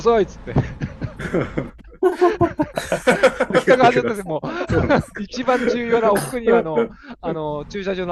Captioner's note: laughs